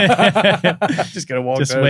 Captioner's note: both laughing